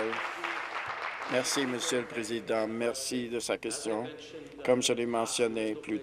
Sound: applause

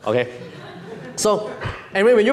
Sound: audience laughing

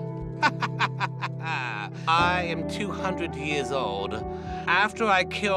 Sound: laughs

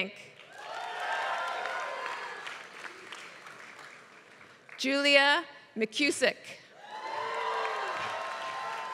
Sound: applause; applause

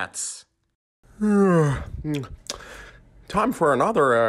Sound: yawn

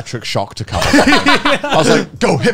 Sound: laughing

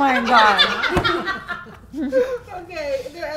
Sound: laughing

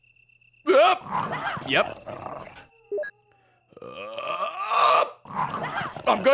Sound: screams

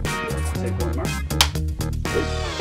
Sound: clapperboard clicks

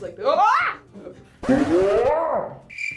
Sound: yells; record scratches; crickets chirping

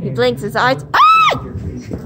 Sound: screams

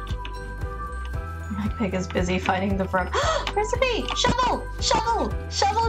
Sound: gasp

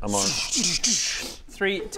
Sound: zzzsz szzschh dsszch

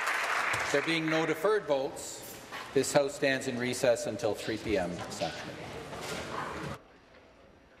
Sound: applause

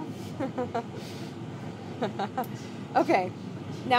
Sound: laughing

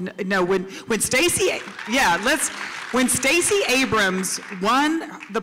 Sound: applause

